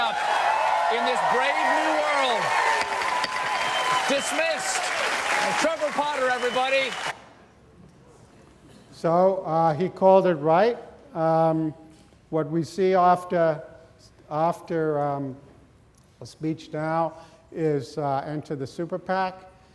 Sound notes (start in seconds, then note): 0.3 audience applauds; 0.3 audience cheers; 2.8 gavel thuds